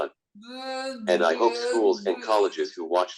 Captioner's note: murmurs